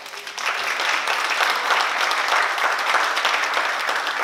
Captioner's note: oklaski